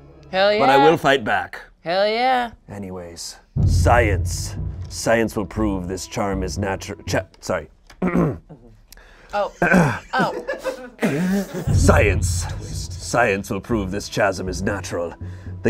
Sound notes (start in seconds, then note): 8.0 clearing throat; 11.0 everyone laughing